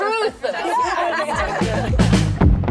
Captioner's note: laughter; upbeat music